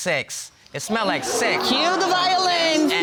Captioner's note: audience exclaiming